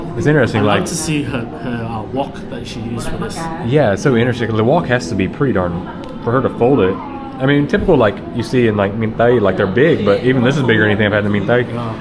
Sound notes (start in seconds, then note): 8.9 speaking Vietnamese; 11.3 speaking Vietnamese